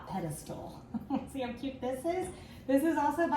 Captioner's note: laughs